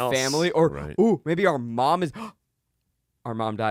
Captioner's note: gasps